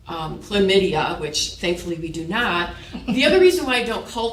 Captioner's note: chuckle